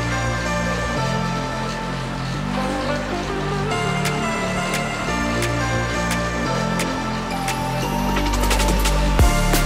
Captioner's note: grunting and breathing